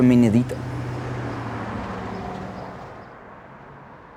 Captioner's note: traffic sounds